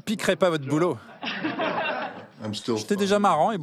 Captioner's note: laughs